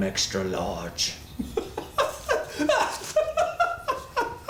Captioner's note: laughs